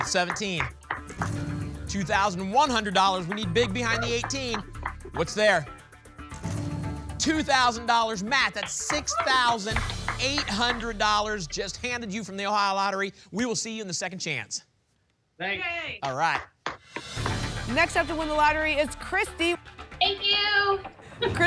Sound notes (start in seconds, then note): 8.6 applause